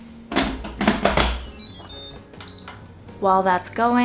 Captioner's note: pot tapping; Instant Pot beeps; Instant Pot chiming